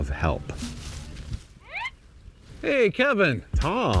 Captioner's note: bush rustles